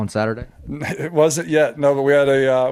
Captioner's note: chuckles